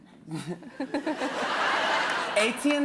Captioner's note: laughter